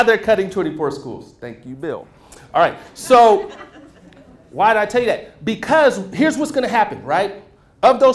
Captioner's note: laughter